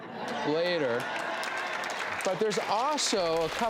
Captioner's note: audience applauds